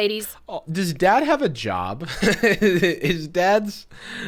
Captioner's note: laughs